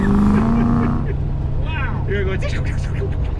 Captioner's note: laughing